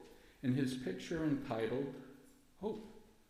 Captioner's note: none